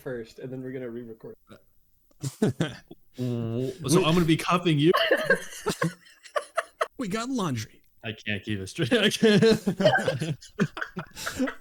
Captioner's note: laughter